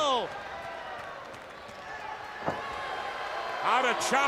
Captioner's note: crowd cheering